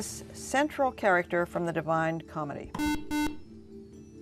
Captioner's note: beeping